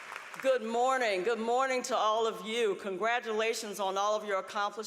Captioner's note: applause